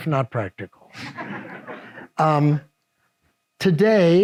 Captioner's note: audience laughs